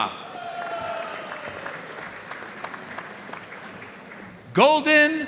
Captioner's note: audience cheering and applauding